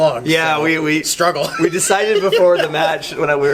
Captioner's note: laughs